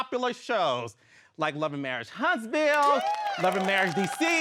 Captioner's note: audience applauding